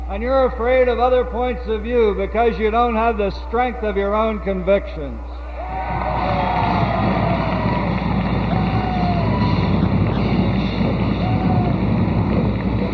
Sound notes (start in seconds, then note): 5.4 audience cheers; 8.2 applause